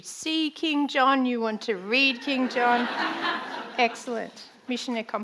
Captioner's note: audience laughing